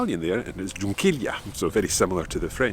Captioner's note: speaks in foreign language